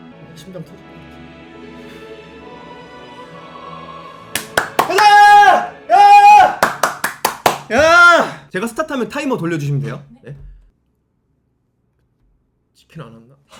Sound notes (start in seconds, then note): 4.3 applause